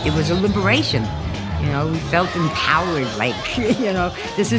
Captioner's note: chuckles